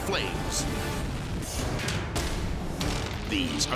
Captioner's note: graphic pounding